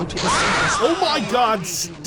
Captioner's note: drowned out by horrible shrieking